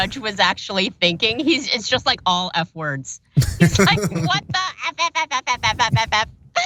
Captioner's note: laugh